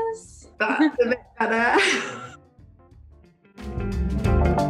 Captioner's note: laughs; upbeat music